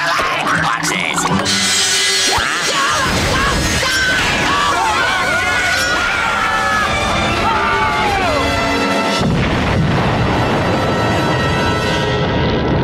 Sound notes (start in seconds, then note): 2.2 screaming